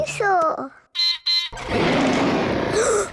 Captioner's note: beeps and roars; gasps and cries